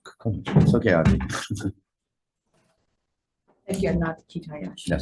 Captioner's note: laughs